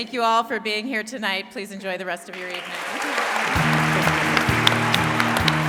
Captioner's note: wild applause